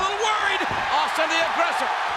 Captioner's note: audience cheers